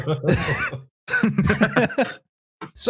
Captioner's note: laughs; laughter